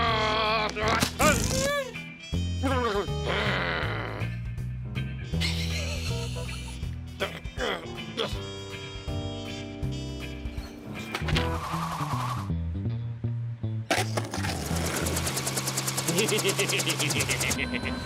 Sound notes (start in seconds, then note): 0.1 growling; 5.4 chuckles; 7.2 grunts; 16.0 laughs